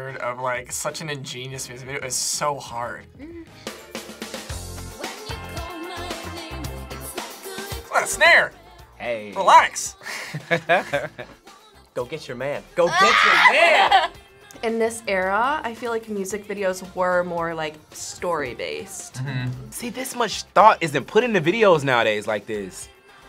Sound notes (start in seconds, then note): 10.0 laughs; 12.8 screams and laughs